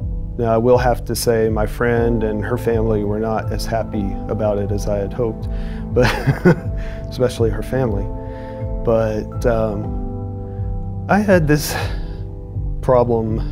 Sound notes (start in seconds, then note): 6.0 chuckles